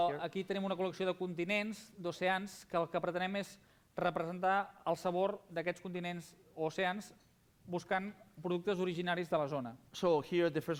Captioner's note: non-english speech